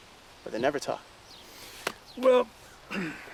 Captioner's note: clears throat